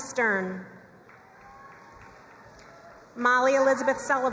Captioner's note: crowd cheering and applauding